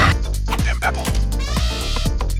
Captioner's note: elephant trumpet